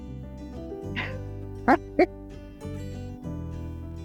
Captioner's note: smiling and laughing